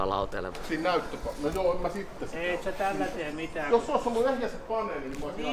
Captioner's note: miscellaneous arguing about hardware